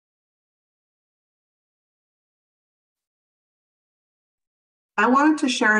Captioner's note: silence